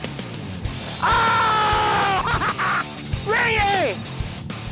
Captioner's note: screams